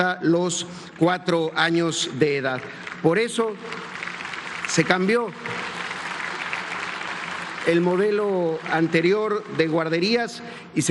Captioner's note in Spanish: aplausos